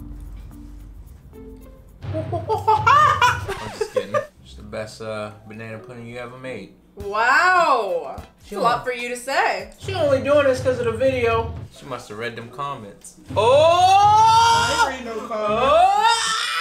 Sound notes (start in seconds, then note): 0.0 suspenseful bangs; 0.3 soft tender music; 2.0 imitates monkey; 2.8 record scratch; 4.2 laughs